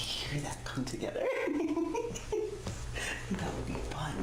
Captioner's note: laughs